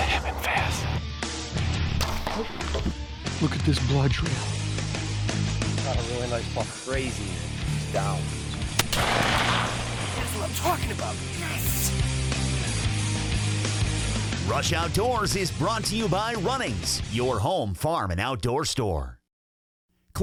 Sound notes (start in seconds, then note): 1.9 arrow shoots; 8.7 gun fires; 13.1 upbeat music continues